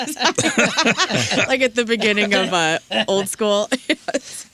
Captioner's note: laughter